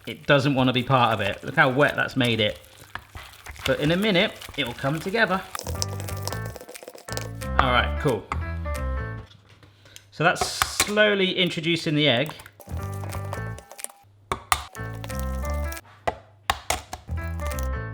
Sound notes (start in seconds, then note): 5.9 upbeat music; 12.6 fast forward whirring; 14.2 egg cracking; 15.1 upbeat music; 16.4 egg cracking